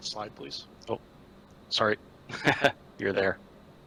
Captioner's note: laughs